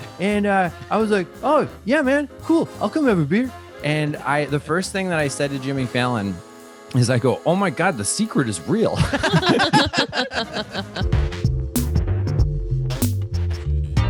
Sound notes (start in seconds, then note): 8.9 all laughing; 11.2 upbeat music